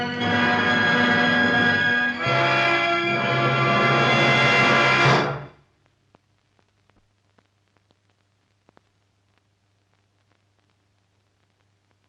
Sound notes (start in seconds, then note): 6.0 static crackling